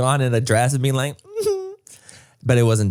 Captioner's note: Manny giggles